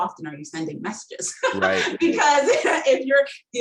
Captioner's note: laughing